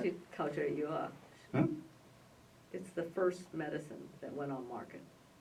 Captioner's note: speaks in Chinese